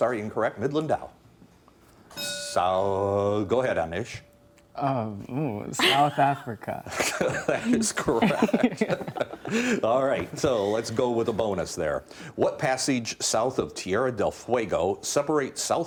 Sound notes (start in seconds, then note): 2.1 bell dinging; 8.8 laughing